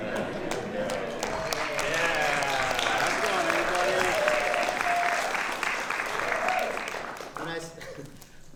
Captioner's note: applause